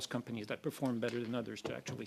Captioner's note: speaking in French